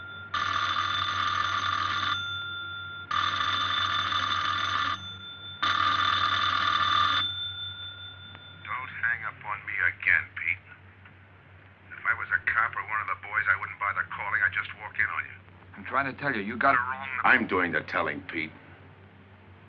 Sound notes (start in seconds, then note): 0.3 phone ringing; 3.0 phone ringing; 5.5 phone ringing